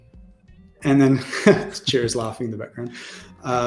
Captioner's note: laughs